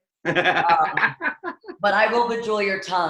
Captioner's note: laughs